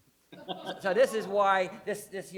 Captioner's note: laughs